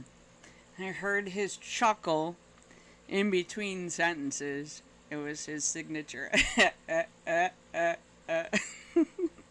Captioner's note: laugh